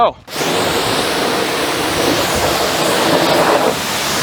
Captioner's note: water splashing